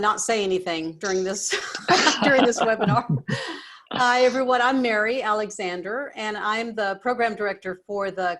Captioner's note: laughter